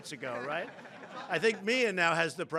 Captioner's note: laughter